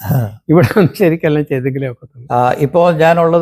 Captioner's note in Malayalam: തൊണ്ട ശരിയാക്കുന്നു